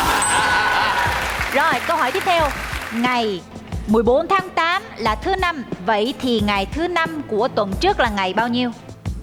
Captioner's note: laughing